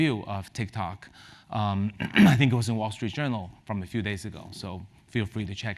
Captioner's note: cough